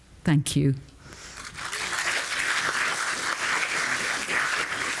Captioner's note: audience applauding